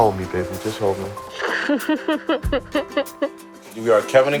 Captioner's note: laughing